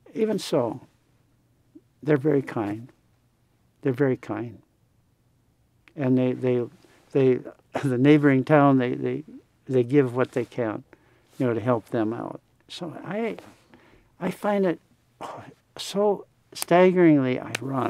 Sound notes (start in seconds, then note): none